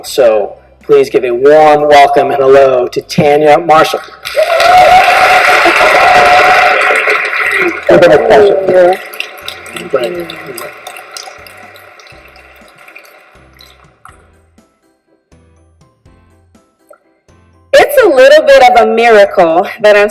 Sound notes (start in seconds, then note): 4.4 audience applauds